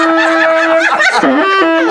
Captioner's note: laughing; loud saxophone music